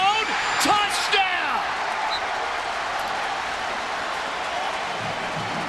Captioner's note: crowd cheering